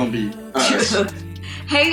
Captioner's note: laughs